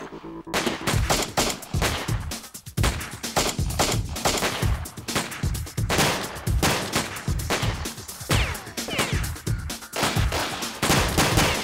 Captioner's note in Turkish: si̇lah sesleri̇